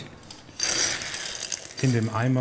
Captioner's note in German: Klappern, Rieseln